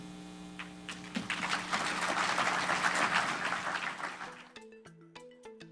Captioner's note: applause